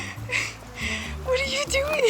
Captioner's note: suppressed laughter